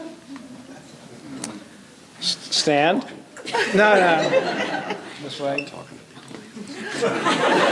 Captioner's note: laughter